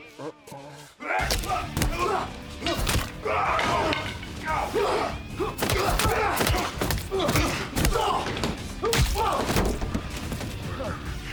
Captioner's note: fighting, shouting